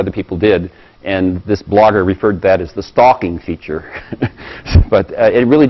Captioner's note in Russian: смеется